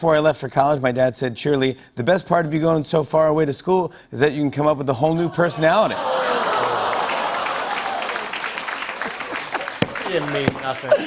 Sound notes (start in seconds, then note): 5.3 laughter, applause; 7.8 laughs